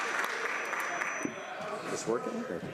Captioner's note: some Applause